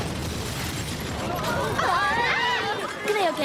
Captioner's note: screaming